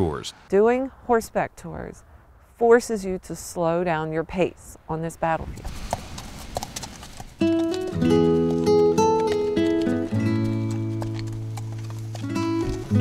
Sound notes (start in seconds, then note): 5.5 hooves clacking; 7.4 gentle music